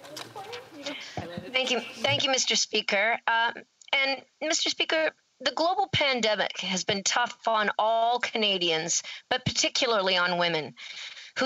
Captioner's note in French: voix de l'interprète